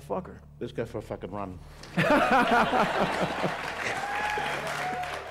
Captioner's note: haha